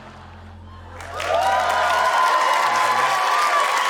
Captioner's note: cheering, applause